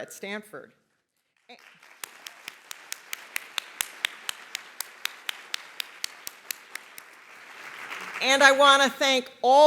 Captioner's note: applause